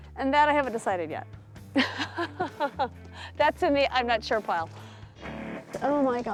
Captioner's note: laughs